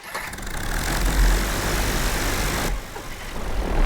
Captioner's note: propeller sputters